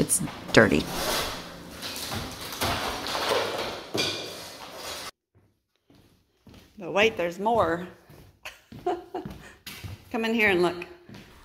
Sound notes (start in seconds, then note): 1.8 plaster falling; 8.3 laughing